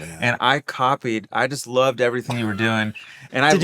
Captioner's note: laughing